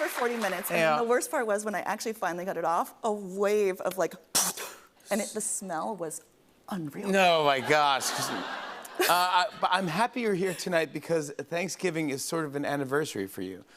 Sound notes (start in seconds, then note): 7.6 laughter